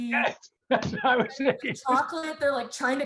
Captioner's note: laughs